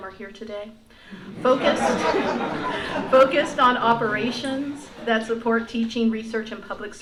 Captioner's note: laughter